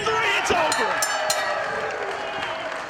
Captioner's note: bell rings